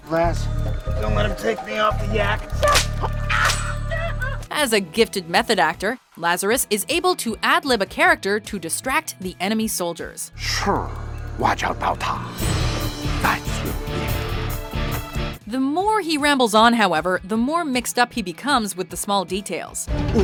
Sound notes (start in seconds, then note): 2.9 shouting in pain